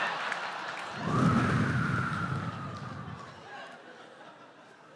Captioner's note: laughter; makes sound of waves crashing